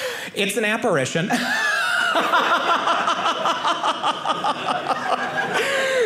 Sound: audience laughing

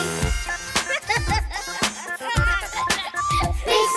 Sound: laughs

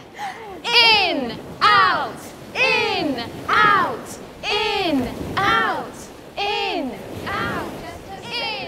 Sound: waves crashing

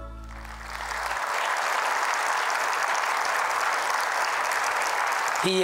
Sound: applause

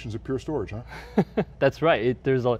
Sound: laughs

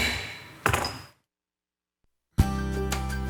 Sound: mayor bangs gavel; upbeat music

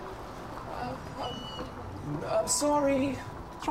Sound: in robotic voice

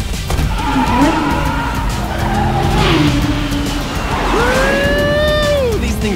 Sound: tires screeching; exclaiming

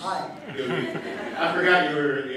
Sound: audience laughing

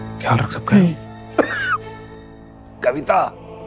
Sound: coughing

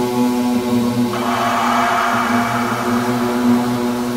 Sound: scream

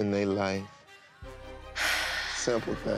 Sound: sighs

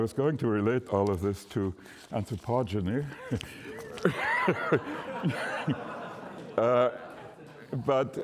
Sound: laughter

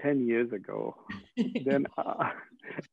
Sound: laughing

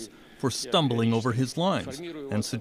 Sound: speaking Foreign Language

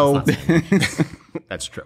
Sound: laughter

